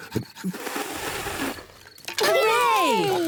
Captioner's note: blows air; all cheer